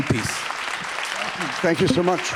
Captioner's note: audience applauding